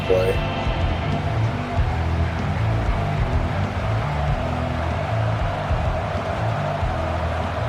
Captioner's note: crowd Noises